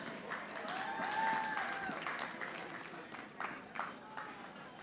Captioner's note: audience applauding